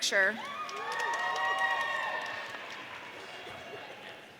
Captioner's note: audience cheering